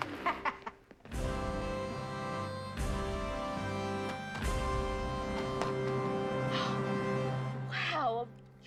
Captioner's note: gun shooting